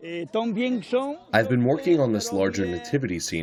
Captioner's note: through translator